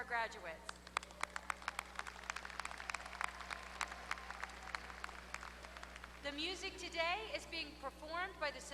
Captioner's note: applause